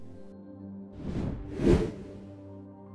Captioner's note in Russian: Звук перехода